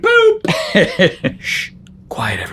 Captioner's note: laughs